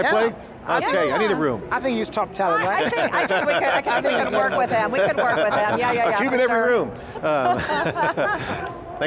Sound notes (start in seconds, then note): 2.7 laughs; 7.2 all laugh